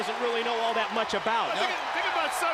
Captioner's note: crowd cheering